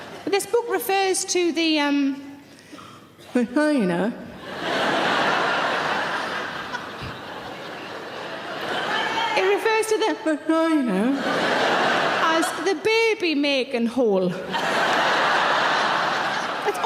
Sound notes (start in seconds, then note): 0.0 audience laughing; 4.4 audience laughing; 11.1 audience laughing; 14.4 audience laughing